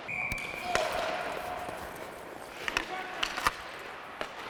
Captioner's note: whistle blowing